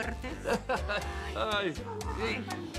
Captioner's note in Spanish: Risas de él